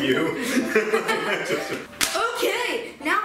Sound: laughs

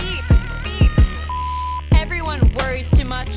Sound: video beeps

